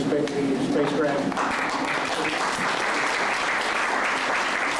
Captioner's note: applause